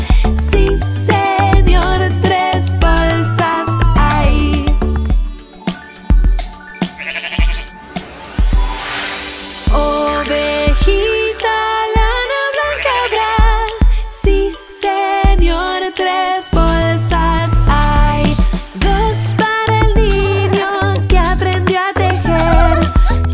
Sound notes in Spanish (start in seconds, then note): 7.0 Sonido de oveja